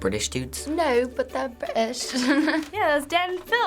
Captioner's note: in British accent; laughs